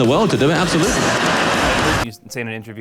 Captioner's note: audience laughing